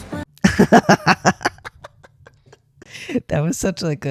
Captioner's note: laughter